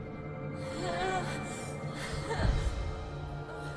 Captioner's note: gasping